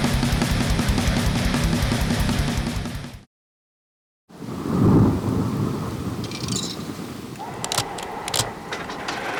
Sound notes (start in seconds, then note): 4.4 thunder and rain; 5.6 a coin is inserted